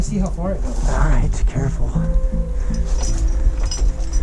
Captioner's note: whispering; heavy breathing; metal clanking